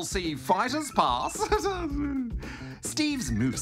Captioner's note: laughs